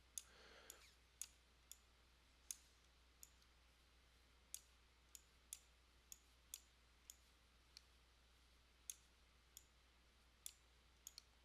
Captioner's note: sound of the mouse